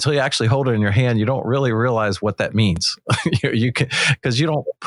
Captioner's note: laughs